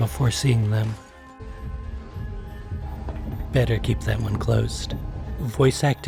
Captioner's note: muffled Stomping